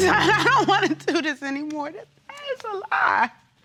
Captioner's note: audience exclaiming; voice breaking